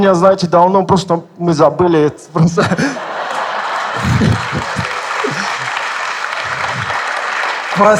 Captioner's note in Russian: смех в зале